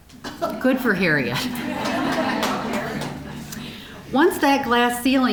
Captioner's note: audience laughing